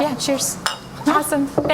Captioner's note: glass clinking